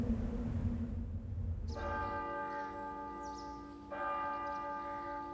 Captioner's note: bells ringing